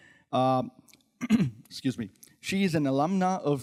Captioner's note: clears throat